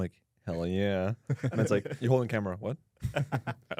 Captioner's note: laughs